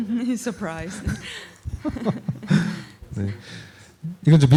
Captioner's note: laughter; speaking korean